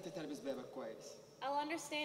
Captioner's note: speaking native language